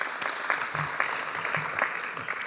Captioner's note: applause